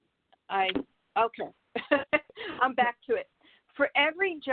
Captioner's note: laughs loudly